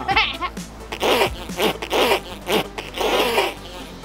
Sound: spitting

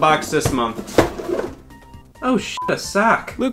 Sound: box opening; beep

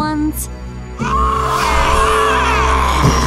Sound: roaring

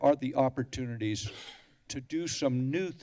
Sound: coughs

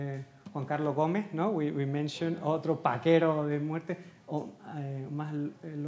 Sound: speaking Spanish; speaking in Spanish

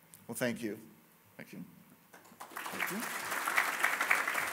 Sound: applause

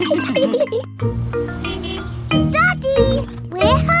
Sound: horn honks

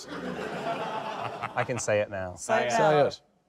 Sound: laughter

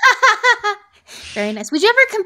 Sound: laughs

